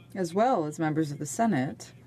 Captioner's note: speaking French